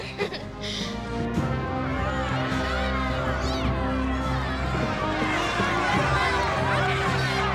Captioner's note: upbeat music; people cheering